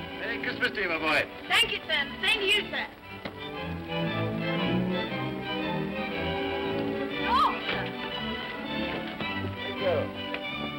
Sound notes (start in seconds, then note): 3.4 upbeat music; 7.2 woman exclaims; 9.2 upbeat music